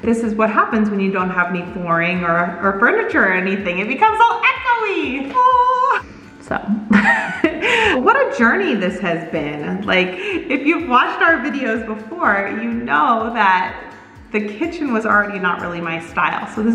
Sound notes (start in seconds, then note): 6.7 laughs